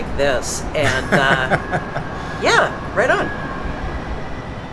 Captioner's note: laughter